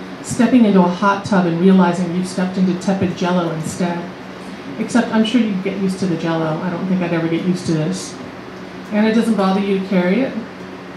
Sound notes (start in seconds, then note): none